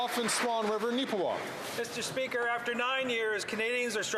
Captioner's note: applause